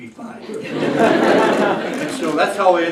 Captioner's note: laughter